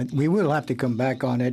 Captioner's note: speaking French